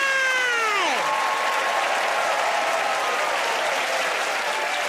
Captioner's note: cheers and applause